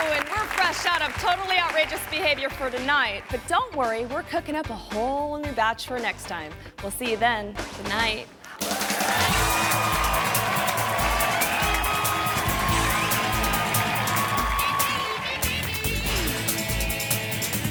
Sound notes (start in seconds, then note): 8.5 upbeat music; 8.6 audience applauding